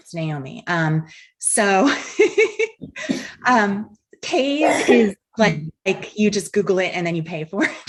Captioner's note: laughs